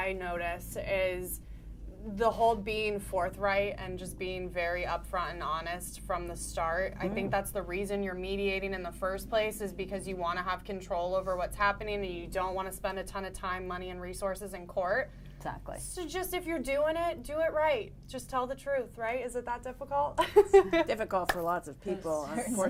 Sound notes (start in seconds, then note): 20.2 laughing